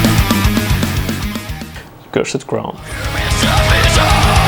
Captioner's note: classy Russian accent appears